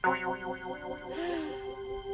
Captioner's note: sighing